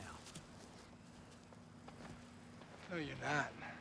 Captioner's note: footstep